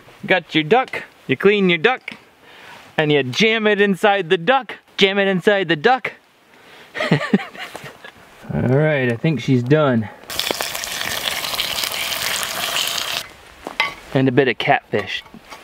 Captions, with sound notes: got your duck, you clean your duck, and you jam it inside the duck, jam it inside the duck (laughs) Alright, I think she's done. (sizzling) And a bit of catfish.